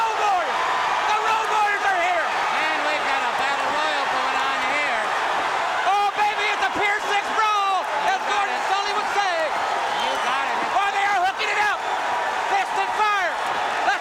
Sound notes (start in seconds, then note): 6.8 crowd cheering